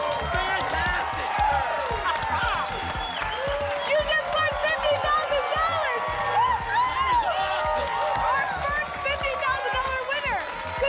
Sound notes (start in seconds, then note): 2.3 applause